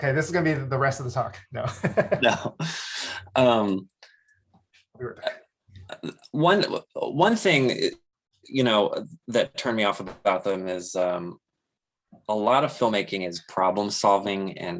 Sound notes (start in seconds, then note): 1.5 laughs; 4.5 chuckles